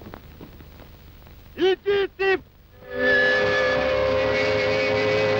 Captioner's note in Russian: звук паровозного гудка